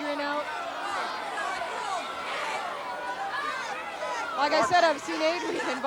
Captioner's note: audience chattering